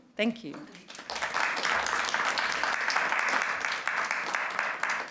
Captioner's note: applause